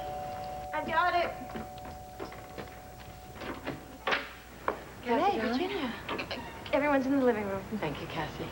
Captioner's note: doorbell rings